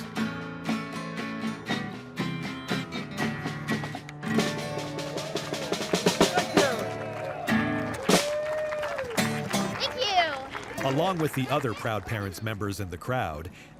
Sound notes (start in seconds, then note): 0.3 upbeat music; 4.7 people cheering